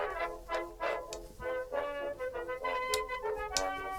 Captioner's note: needles clicking